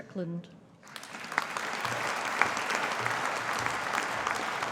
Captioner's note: audience applauding